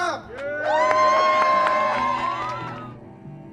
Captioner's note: crowd cheers